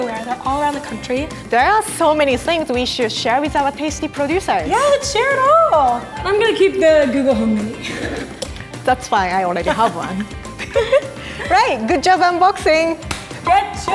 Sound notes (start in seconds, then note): 9.5 giggling